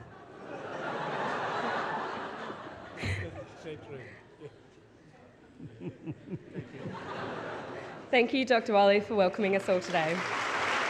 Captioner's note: laughs; applause